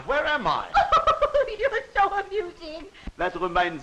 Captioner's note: laughs